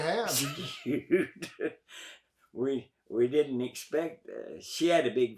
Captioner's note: laughs